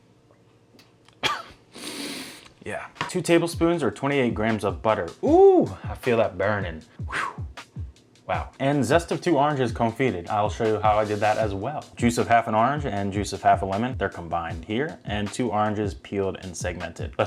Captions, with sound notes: (coughs) Yeah. Two tablespoons or 28 grams of butter. Ooh, I feel that burnin'. Whew. Wow. And zest of two oranges, confited, I'll show you how I did that as well. Juice of half an orange and juice of half a lemon, they're combined here, and two oranges peeled and segmented.